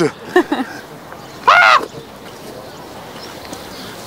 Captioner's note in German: Vogel schreit